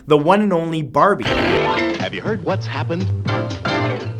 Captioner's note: voiceover